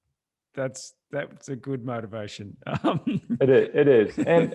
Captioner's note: laughs